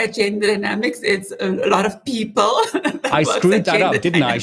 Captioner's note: laughs